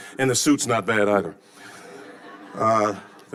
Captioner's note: audience laughing